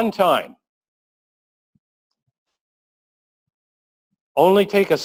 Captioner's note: pause